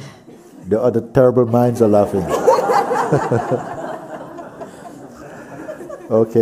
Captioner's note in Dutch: gelach